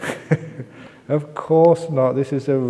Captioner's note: laughs